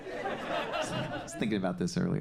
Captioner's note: audience laughing